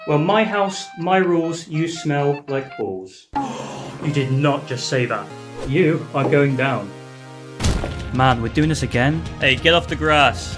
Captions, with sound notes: well my house ,my rules, you smell, like balls. *gasp* you did not say that! you, are going down! man! we're doing this again? hey! get off the grass!